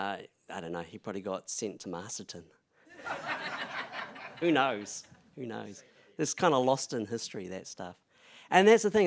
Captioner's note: laugther